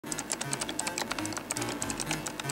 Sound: typing

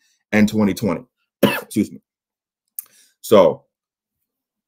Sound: coughs

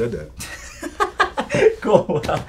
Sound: laughs

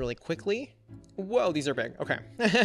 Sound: laughs

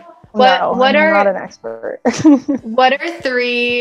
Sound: laughs

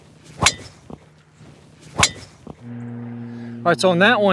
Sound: club strikes ball

